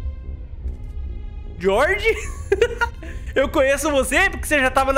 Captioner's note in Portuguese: risos